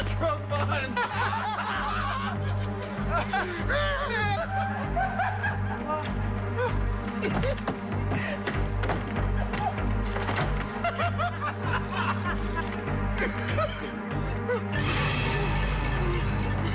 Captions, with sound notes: Let's give this guy back I drunk mine.mas bonus. (DRUNKEN LAUGHTER)